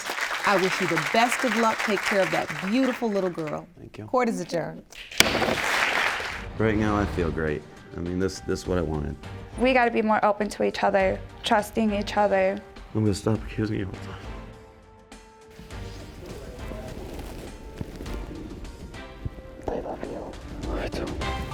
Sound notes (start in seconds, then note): 4.9 audience claps; 5.1 gavel strikes; 20.0 whispering